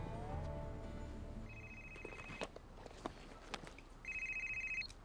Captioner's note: phone rings